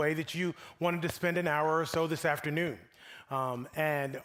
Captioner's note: none